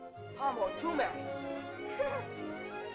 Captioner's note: soft music; boy speaking in caveman language; girl laughs